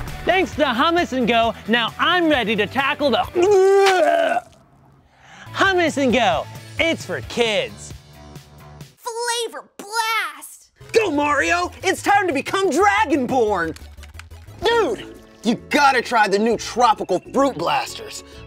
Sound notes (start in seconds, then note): 3.4 retches